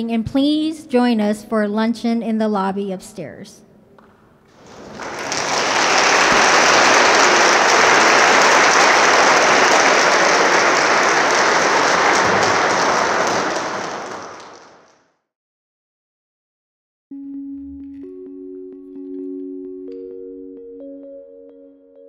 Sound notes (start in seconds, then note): 5.9 audience claps; 17.1 mellow music